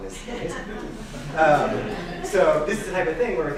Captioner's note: laughing